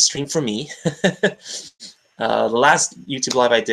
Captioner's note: laughs